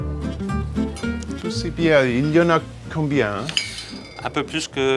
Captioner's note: speaking in french